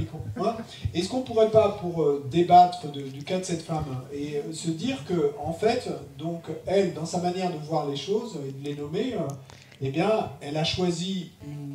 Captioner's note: question read in French